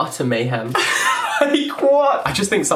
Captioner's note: laughter